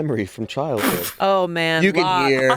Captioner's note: sputter laughs